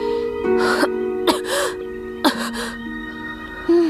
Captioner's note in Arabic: سعال